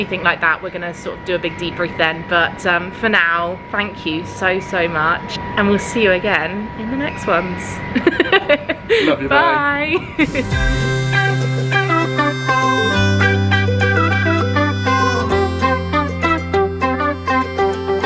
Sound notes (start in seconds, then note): 8.1 laughs; 10.2 upbeat music; 10.4 laughs